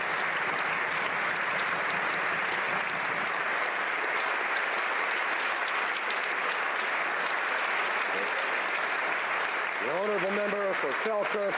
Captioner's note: applause